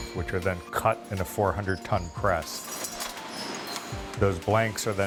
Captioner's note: machinery noises